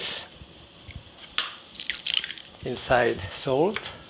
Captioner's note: egg cracking